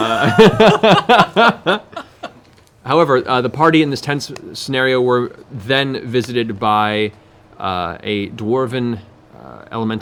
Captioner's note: laughs